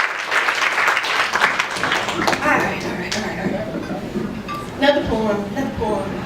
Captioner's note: applause